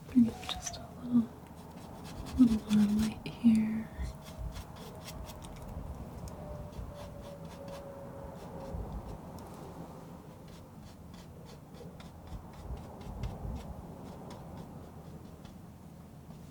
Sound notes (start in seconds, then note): 7.2 scratching; 14.8 scratching